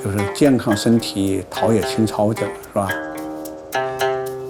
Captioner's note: speaking Chinese: English translation on screen